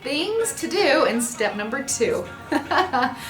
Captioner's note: laughs